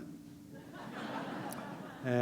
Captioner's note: laughter